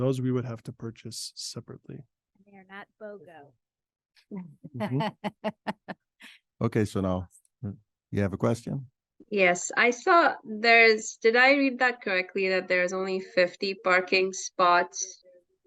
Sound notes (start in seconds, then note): 4.7 participants laugh